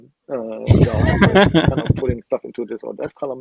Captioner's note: laughing